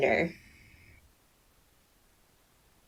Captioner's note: more awkward silence